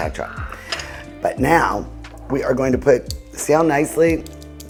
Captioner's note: bowls clinking